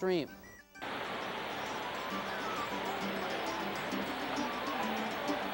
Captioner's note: water rushing